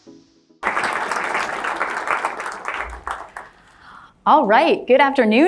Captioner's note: crowd applause